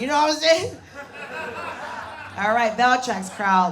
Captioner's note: audience laughs